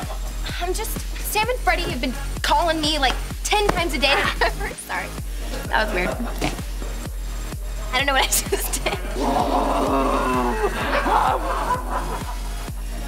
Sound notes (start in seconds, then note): 9.0 moaning